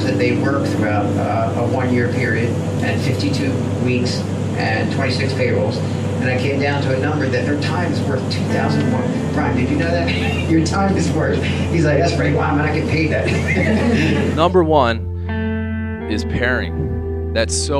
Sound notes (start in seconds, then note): 9.9 laughs; 13.2 laughter